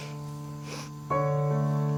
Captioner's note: Ura sobs